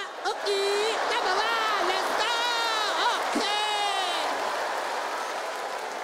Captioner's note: audience laughs and applauds